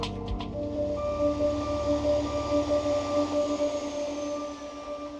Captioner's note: music & bus reversing